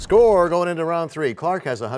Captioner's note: crashing sound